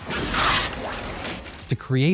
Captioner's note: Graboid snarls